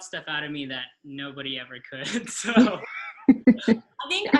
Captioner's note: laughs; chuckles